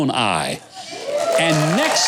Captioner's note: audience cheering